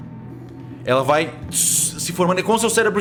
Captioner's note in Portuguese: estática